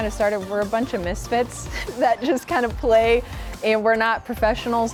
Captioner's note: chuckling